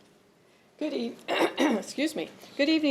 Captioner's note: clears throat